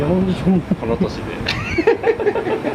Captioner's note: laughs